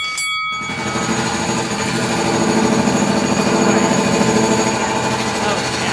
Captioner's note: bell rings; machine clattering